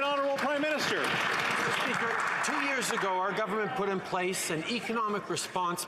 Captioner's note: some Applause